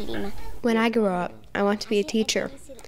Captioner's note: through translator